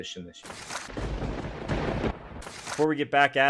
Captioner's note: thunder rumbling